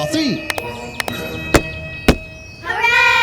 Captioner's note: clap Clap; stomp Stomp